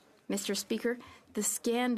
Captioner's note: speaking French